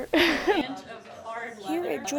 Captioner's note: laughs